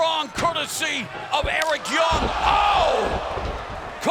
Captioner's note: kendo stick slaps